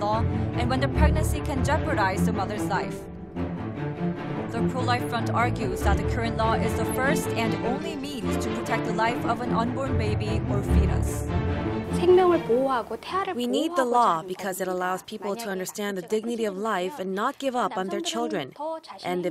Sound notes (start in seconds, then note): 13.9 Korean